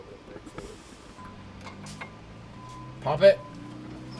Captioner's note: clattering